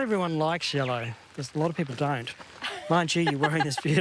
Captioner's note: laughs